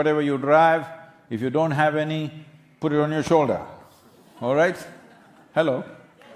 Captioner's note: few laugh